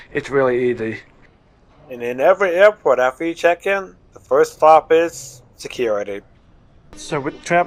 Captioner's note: voiceover